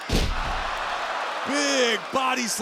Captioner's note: body thudding; crowd groaning